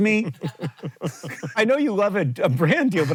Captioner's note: JOHN chuckles and CREW laughs